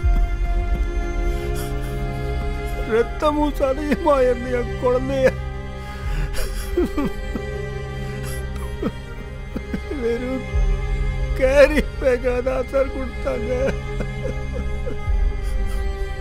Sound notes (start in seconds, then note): 5.8 Rajeev cries